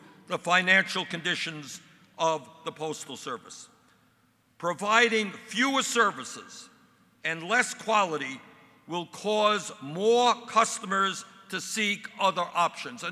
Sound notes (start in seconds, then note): none